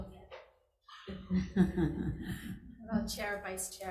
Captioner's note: chuckling